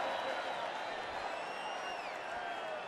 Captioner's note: crowd cheering